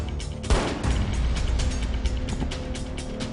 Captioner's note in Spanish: Disparo